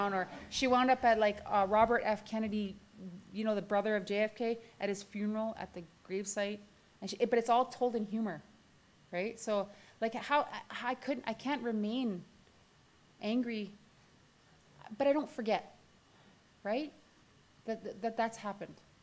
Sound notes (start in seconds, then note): none